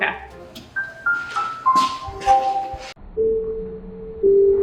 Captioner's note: bell chiming; slow music